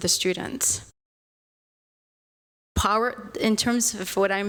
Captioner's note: audio out